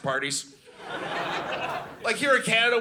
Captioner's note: audience laughing